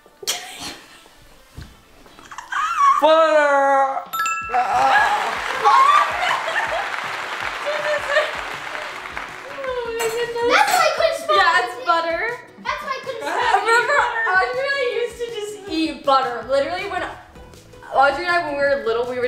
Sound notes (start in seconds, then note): 0.1 laughing; 4.1 correct bell rings; 4.7 crowd clapping; 6.4 laughing